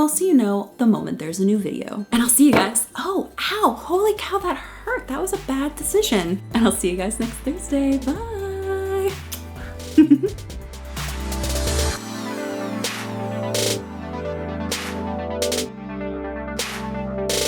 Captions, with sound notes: so you know the moment there's a new video. And I'll see you guys, oh, ow, holy cow that hurt. That was a bad decision. And I'll see you guys next Thursday. Bye. (laughs) (upbeat electronic music)